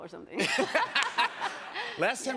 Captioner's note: laughter